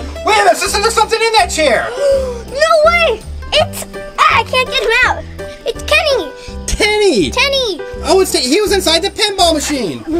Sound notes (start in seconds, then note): 1.8 gasps